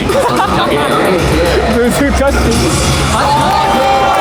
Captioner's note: laughs